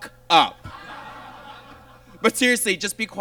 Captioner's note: audience laughs